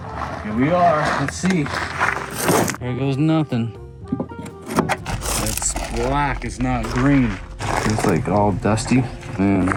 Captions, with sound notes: Here we are. Let's see. Here goes nothing. (charger clicking) It's black, it's not green. It's all dusty.